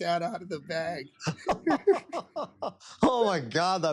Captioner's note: laughter